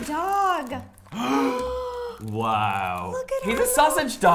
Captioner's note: gasps